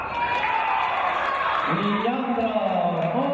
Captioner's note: cheering and applause